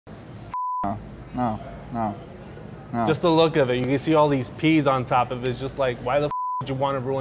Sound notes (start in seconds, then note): 0.5 beep; 6.3 beep